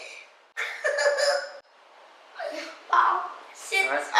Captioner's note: laughs